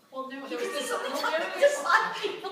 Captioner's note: laughter